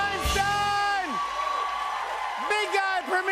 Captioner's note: cheers and applause